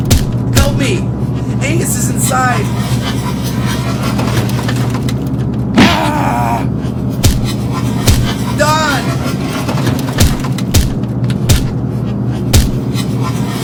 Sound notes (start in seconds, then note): 8.0 object striking